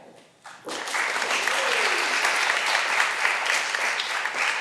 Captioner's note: all applauding